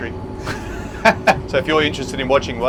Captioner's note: laughing